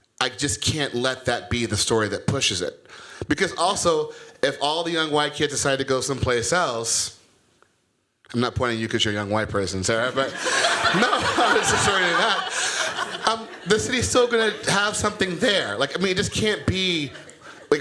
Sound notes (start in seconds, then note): 10.1 laughter